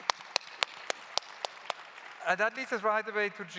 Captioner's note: claps